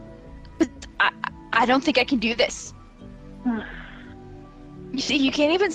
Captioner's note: sigh